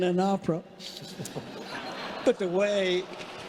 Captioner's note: congregation laughing